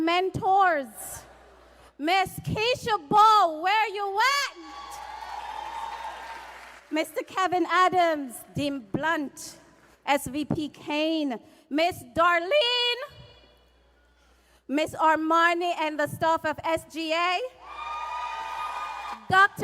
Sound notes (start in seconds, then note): 6.8 cheers and applause